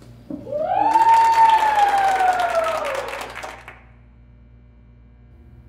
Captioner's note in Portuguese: uivos e aplausos